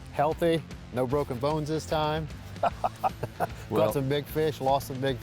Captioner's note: laughs